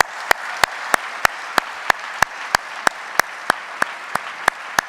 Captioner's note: audience applauding